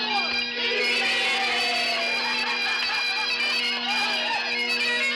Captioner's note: men whooping